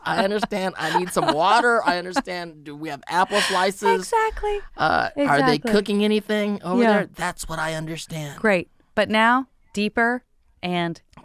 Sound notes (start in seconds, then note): 4.1 laughing